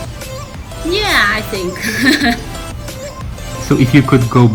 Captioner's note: laughing